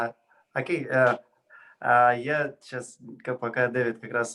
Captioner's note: foreign language